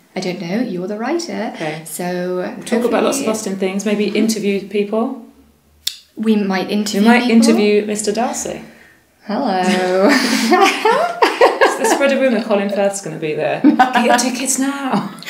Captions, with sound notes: I don't know - you're the writer! So hopefully... We'll talk about lots of Austen things. Maybe interview people. - We might interview people. - We might interview Mr Darcy! Hello...! (both laugh) Let's spread a rumour Colin Firth is gonna be there! Get your tickets now!